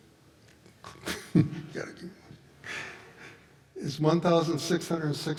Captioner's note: laughs